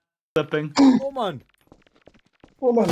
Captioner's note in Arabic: يصيح